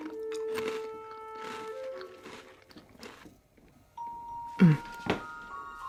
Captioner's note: cookie crunching